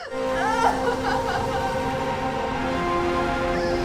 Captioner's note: crying; dramatic music